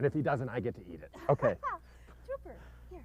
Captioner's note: laughter